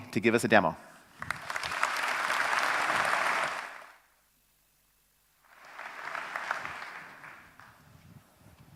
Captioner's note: applause